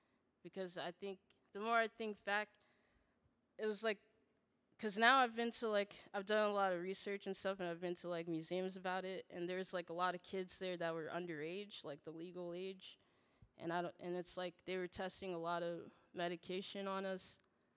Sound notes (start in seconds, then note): none